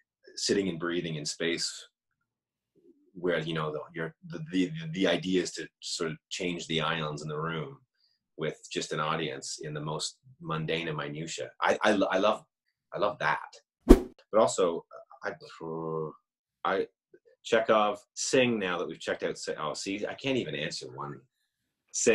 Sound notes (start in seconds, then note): 13.8 whoosh